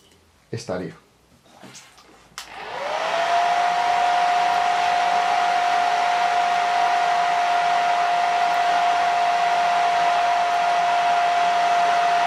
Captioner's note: noise dryer